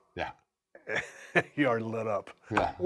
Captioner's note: laugh